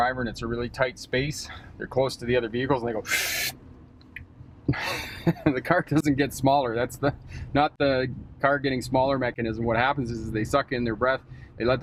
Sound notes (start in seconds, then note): 3.0 gasps quickly; 4.8 laughs